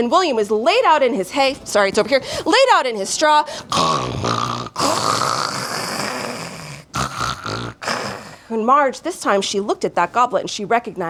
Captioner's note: snoring